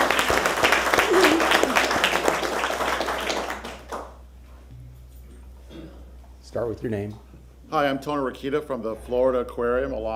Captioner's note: applause